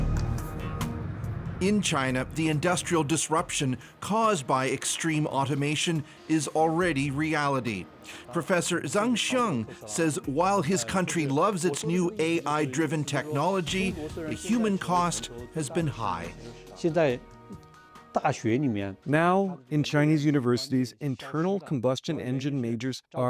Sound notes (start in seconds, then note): 20.0 speaking alternate language